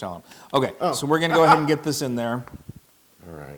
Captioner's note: laugh